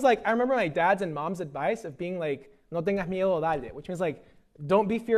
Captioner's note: speaking spanish